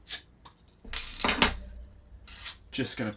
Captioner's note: bottle opening